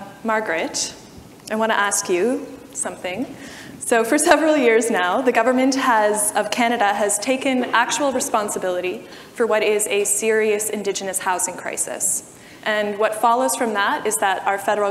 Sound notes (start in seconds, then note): none